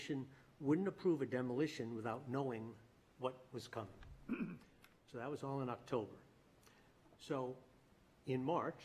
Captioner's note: clears throat